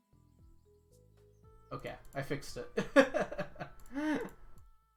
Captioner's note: laughs